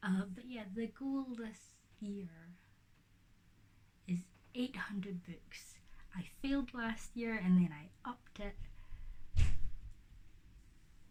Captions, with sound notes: But. Yeah. The goal this year is 800 books. I failed last year. And I upped it. [thump in background]